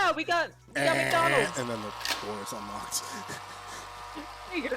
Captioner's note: electric Door Lock Buzzer